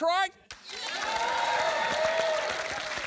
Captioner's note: cheering, applause